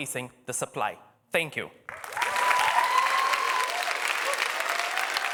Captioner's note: applause